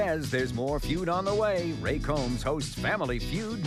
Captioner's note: none